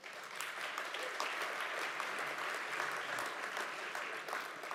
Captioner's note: audience applauds